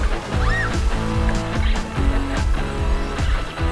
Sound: screaming

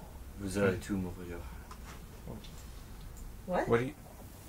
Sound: Jake speaking French

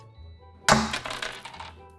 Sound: crunch!

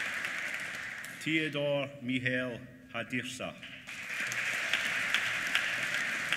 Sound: applause

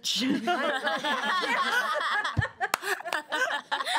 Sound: girls laughing

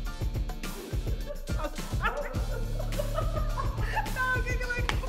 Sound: laughing

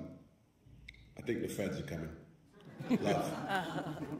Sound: all chuckling

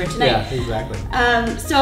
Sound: laughs

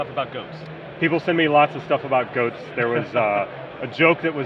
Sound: laughing

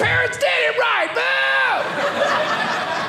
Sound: audience laughing

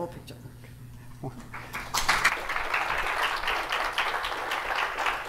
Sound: applause

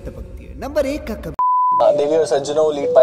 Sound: beep

